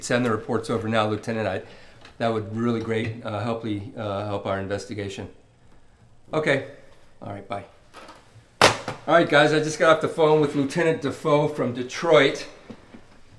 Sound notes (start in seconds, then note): 8.6 phone receiver clatters